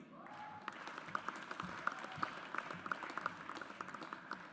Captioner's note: audience applauds